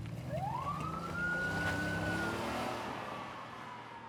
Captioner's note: police siren wailing